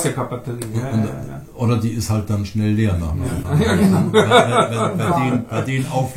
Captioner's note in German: lacht